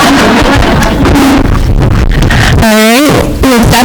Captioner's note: crowd laughing